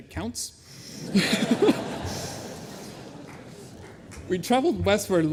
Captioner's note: laughter